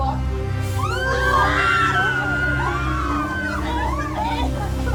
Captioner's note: dramatic music; all screaming